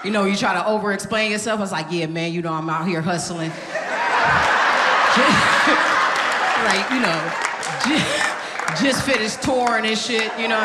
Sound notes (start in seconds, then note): 3.4 audience laughing